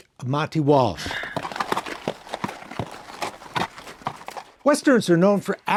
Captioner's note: horses walking